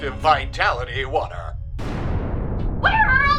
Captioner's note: huge explosion